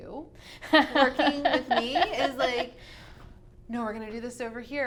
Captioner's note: laughs